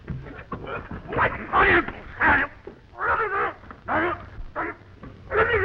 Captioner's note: George shouting